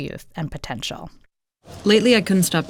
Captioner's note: soundbite of tv show, "fleishman is in trouble"